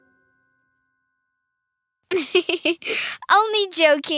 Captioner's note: giggling